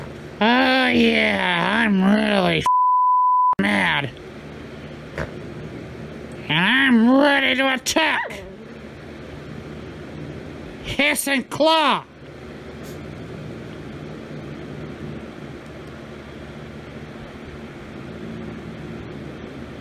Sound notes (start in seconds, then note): 11.8 Ella yelps; 13.8 Caprice growls